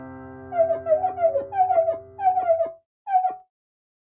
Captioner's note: marker squeaking